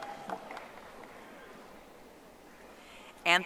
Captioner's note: audience applauding